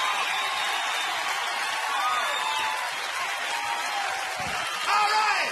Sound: audience cheering

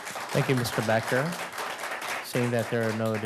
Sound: applause

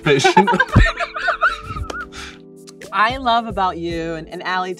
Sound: both laugh

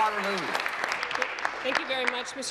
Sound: applause

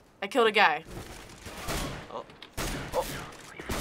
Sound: enemy groans; firing

